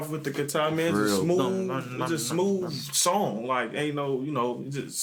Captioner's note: imitating guitar